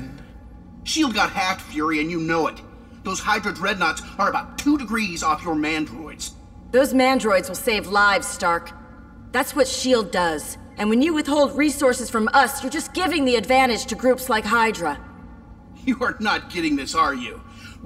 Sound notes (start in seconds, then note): none